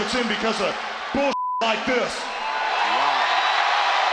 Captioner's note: beeps; audience cheers